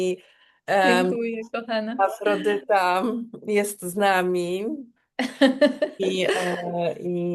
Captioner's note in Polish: śmiech